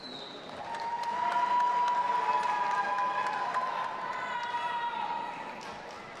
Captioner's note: audience applauding and cheering